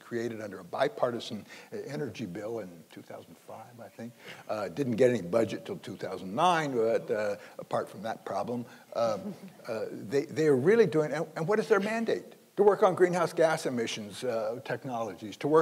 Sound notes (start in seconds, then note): 8.9 panel laughing